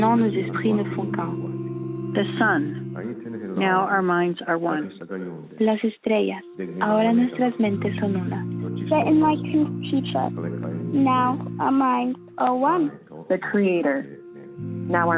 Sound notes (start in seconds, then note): 0.0 foreign language 00:46:40; 5.1 foreign language 00:46:47